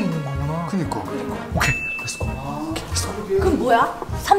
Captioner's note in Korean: 띵, 효과음